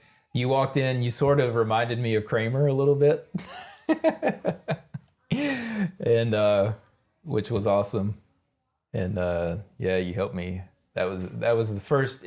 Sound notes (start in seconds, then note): 3.3 both laughing